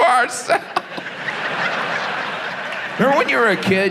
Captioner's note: audience laughs